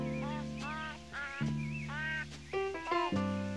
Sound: baby cooing

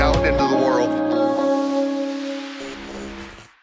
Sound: logo buzzes; logo whooshes

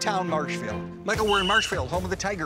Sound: whistle blows

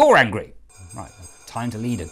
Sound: Division Bell rings

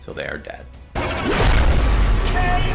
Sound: explosion booms

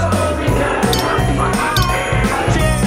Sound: clinking

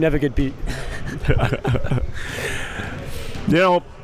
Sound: laughing

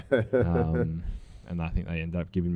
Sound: laughs

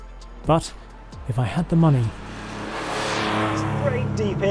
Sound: engine roars

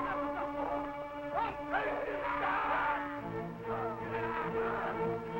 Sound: men grunting

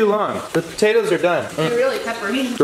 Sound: eats

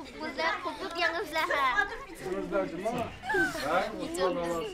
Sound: children speaking Uyghur

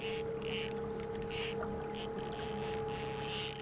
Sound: reel spinning

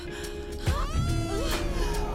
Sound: howl

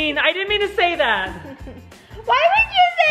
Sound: chuckles

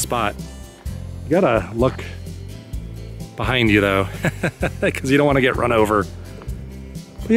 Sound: laughter

